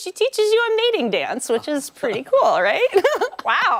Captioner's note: laughter